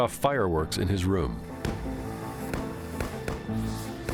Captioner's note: fireworks exploding